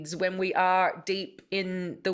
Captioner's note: none